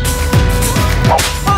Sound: slap

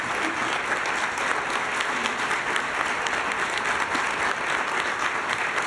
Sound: applause

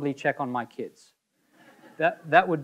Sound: audience laughing

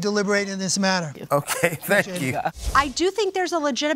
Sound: chuckles

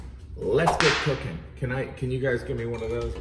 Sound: whip cracking

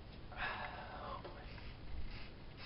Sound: exhale; whispers

